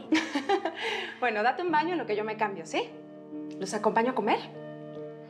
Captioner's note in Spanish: risas